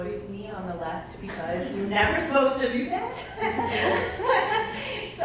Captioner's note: laughter